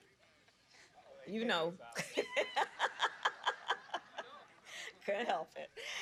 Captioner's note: laughs